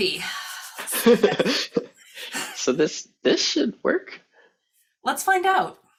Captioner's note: laughing